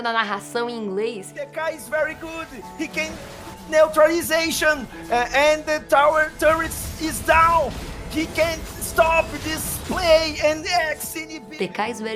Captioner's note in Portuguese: narrando em inglês